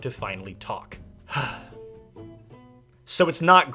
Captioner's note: sigh